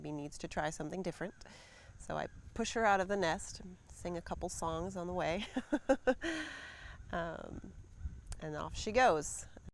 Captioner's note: laughs